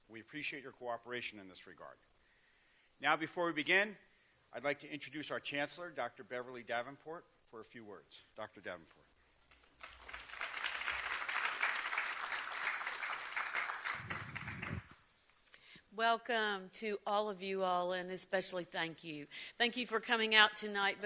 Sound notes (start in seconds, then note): 9.5 applause